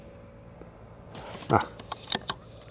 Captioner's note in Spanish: resoplido